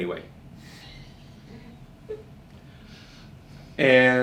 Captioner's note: quiet laugher